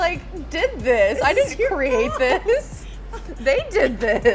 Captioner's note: lady chuckles